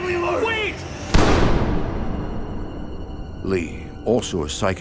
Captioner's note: gunshot